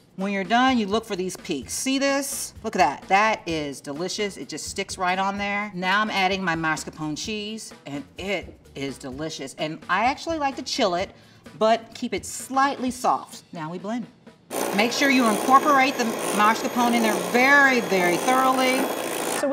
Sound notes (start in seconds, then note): 14.5 blender whirring